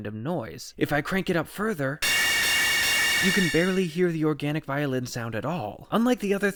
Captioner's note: bang